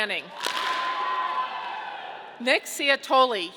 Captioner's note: audience clapping